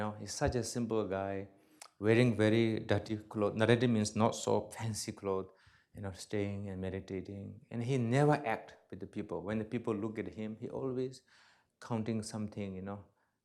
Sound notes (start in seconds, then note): 3.6 non-english